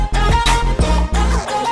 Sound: none

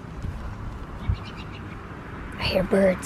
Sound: birds chirping

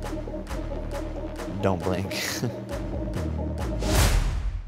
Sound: chuckles

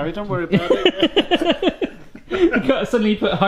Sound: laughs

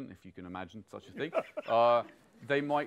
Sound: laughs

